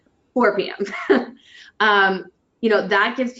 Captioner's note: laughs